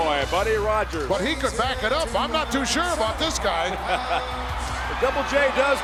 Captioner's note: laugh